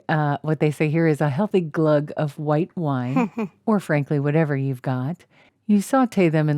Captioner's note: hehe